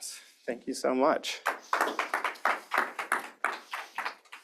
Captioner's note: applause